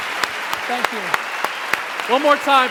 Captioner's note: cheering